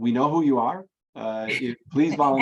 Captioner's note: laughs